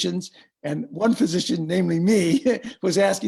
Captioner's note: laughs